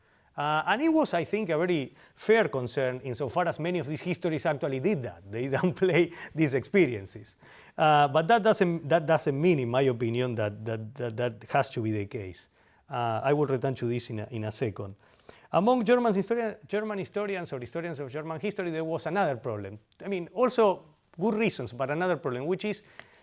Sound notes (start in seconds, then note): 5.5 laughter